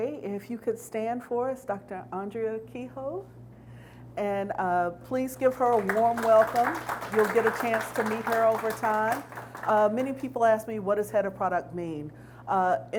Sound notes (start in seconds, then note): 5.3 audience applauds